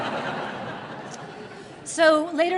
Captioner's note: laughter